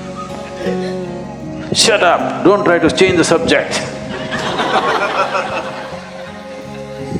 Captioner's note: laughter